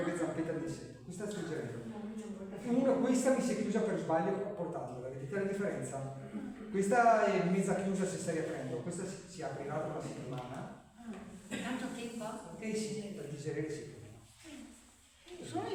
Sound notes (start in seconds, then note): 12.1 clears throat